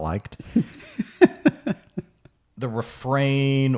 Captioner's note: laughing